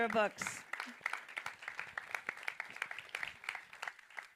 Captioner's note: audience applauding